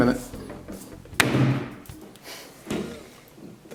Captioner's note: banging